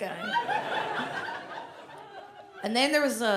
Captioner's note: audience laughs